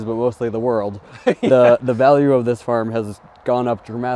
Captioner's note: laughing